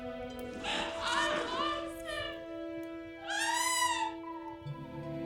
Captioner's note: cries out; soft dramatic music